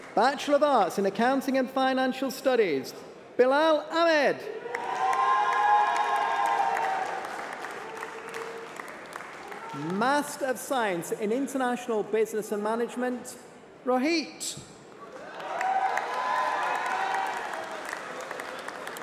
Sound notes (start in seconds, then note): 6.2 applause